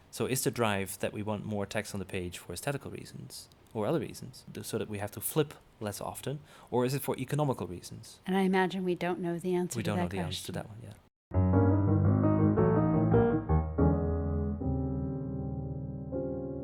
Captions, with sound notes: So is the drive that we want more text on the page for aesthetical reasons, or other reasons, that sort of we have to flip less often? Or is it for economical reasons? - [Voiceover] And I imagine we don't know the answer-- - [Voiceover] We don't know the answer to that one. (piano music)